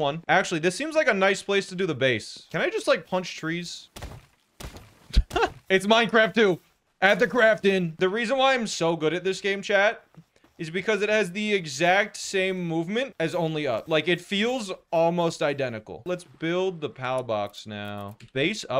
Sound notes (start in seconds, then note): 5.1 laughing